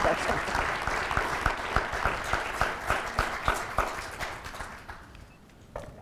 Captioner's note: applause